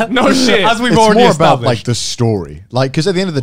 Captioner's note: laughs